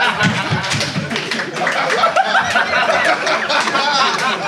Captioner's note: Sidemen laugh